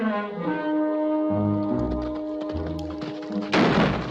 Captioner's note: horse trotting; gunshot